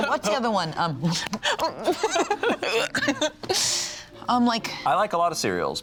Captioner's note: laughs